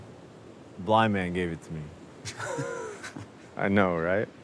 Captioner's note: both laughing